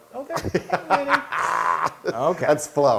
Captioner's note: laugh